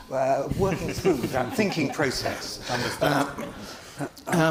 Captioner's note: panel laughing